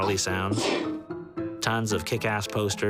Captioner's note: sneezing